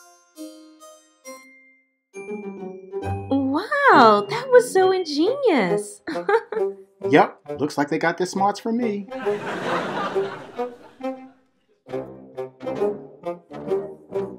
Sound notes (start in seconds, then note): 6.0 laughs; 9.1 audience laughs